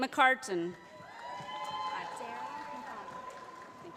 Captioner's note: applause